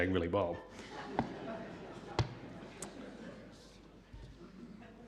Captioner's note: audience laughs